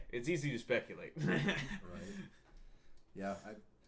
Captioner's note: laughs